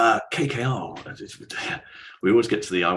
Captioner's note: laughs